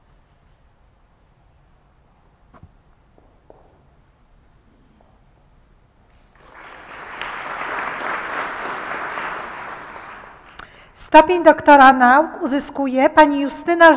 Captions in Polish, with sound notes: [oklaski] Stopień doktora nauk uzyskuje Pani Justyna